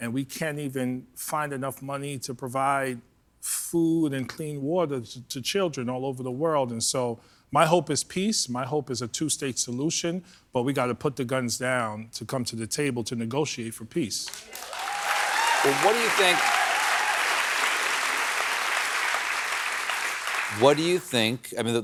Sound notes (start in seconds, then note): 14.3 cheers and applause